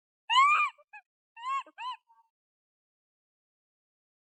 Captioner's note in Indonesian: menangis